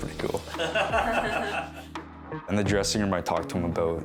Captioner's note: laughs loudly